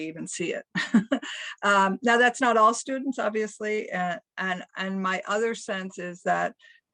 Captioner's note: laugh